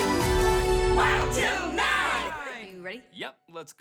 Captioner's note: crowd